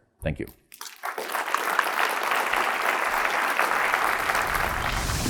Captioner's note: audience clapping